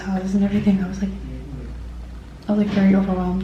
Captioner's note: hotel room door opening